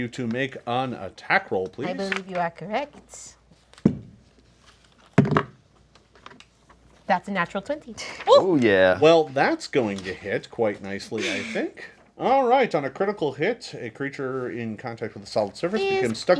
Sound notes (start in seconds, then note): 3.0 dice roll